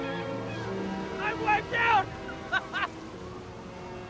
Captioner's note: laughs